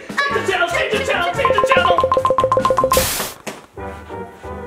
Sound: remote beeping

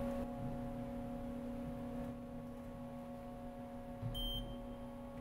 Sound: machines beeping

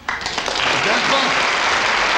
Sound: audience clapping

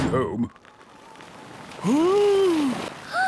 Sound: sliding; clangs; Peppa gasps

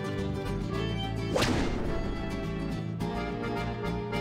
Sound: ruler slams

